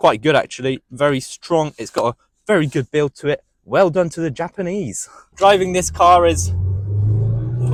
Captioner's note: car noise